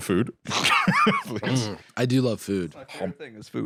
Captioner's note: laughs